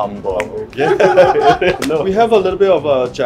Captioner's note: all laugh